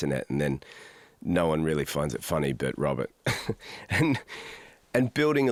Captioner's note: laughs